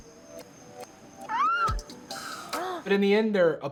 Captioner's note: squeals